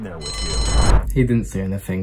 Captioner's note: bell rings